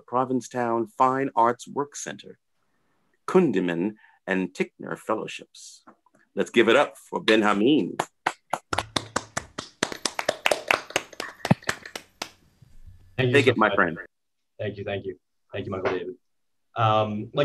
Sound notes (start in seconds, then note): 11.9 applause